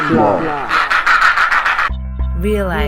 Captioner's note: penguins being noisy